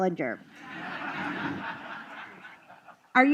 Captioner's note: laughter